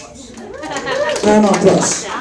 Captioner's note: audience applauds